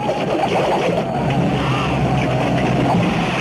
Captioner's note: arrows whistling